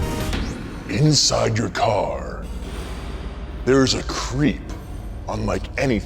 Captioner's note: voiceover